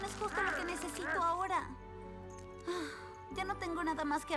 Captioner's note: sigh